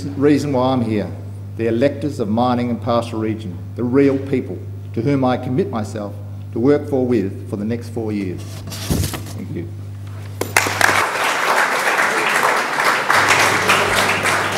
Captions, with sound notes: why I’m here—the electors of the Mining and Pastoral Region; the real people to whom I commit myself to work for and with for the next four years. Thank you. [Applause.]